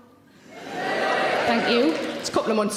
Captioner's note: audience cheering